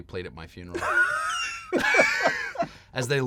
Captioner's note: laughter